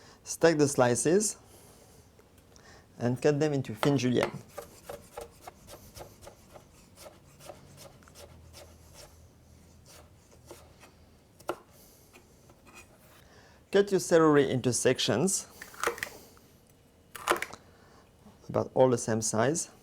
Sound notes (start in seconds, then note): 7.4 cutting sounds